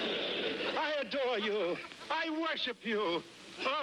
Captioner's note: laughter